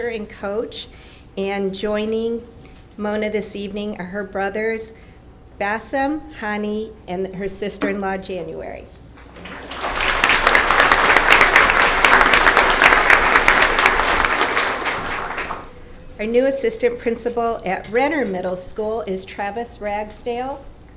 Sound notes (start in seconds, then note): 9.2 applause